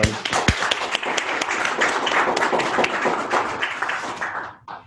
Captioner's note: applause